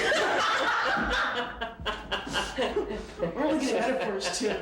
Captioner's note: laughter